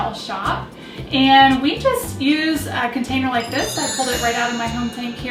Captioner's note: magical sound plays